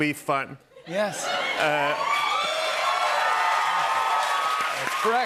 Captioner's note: cheers and applause